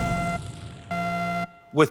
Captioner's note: buzzer